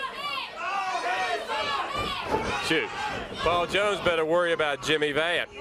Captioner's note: crowd chatter